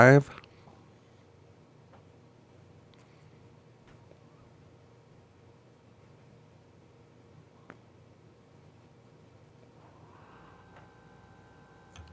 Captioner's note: silence